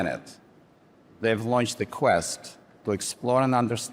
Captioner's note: none